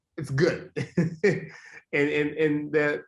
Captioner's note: laughs